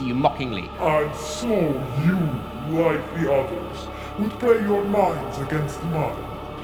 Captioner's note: malevolent voice